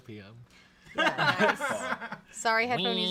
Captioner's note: off-camera laughing